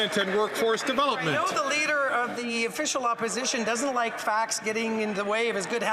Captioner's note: some Applause